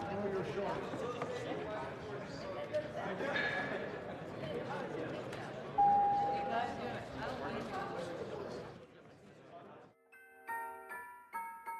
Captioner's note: speaking French